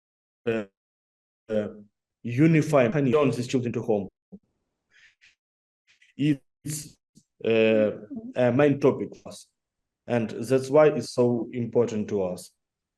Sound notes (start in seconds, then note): 8.1 audio distorts